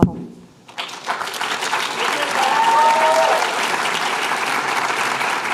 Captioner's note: applause